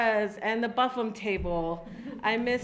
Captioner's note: ladies laugh